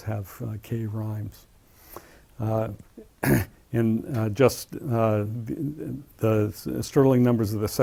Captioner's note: cough